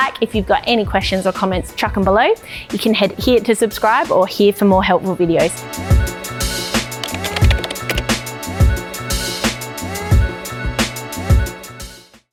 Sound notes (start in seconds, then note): 6.0 gentle upbeat music; 6.9 keyboard clicking